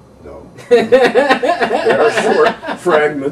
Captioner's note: interviewer laughing